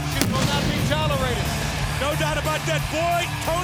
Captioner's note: crowd cheering